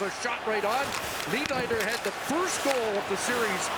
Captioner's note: crowd noise